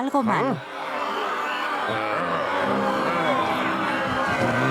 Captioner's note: angry crowd noise